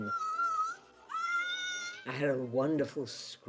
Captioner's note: screaming